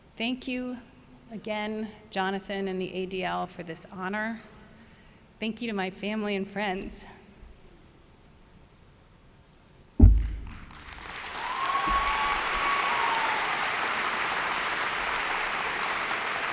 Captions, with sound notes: Thank you again, Jonathan and the ADL, for this honor. Thank you to my family and friends. (audience applauds)